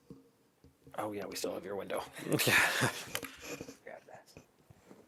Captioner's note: laughter